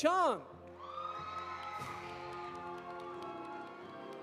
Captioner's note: audience applauding; audience cheering